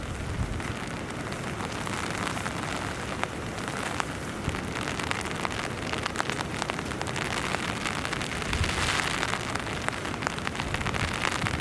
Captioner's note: sound of heavy rain